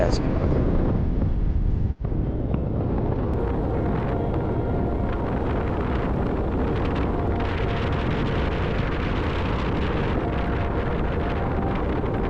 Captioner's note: sound of Nature